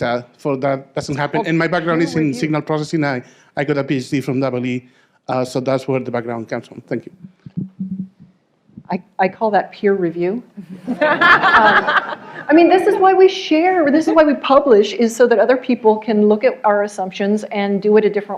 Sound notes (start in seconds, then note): 10.6 laughter